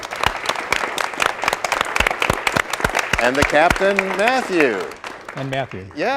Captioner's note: cheers and applause